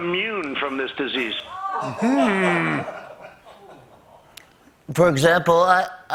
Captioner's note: crew groans